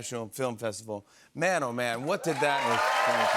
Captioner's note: cheers and applause